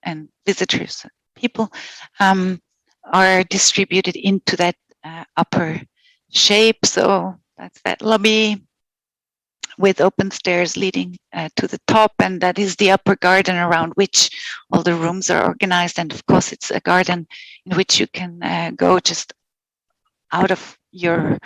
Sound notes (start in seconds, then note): 17.0 non-english speech